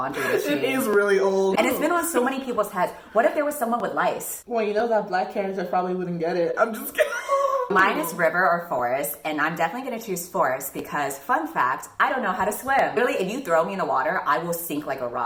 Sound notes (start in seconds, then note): 6.9 wheeze laugh